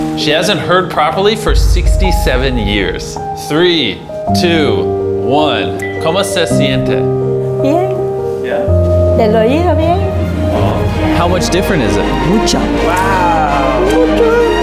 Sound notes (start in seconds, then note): 4.5 speaking Spanish; 9.1 patient speaking Spanish